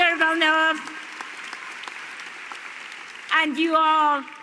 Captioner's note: applause